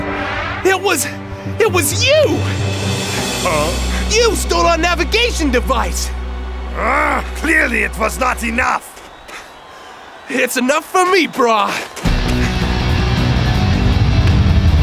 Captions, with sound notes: It was you. - Huh? - You stole our navigation device. (growling) - Clearly it was not enough. - It's enough for me bro. (upbeat music)